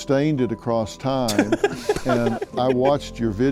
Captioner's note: all laughing